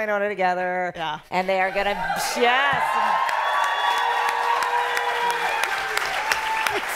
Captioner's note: cheering